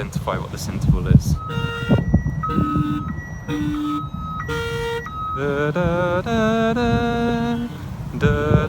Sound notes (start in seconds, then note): 1.3 alarm squealing; 5.8 humming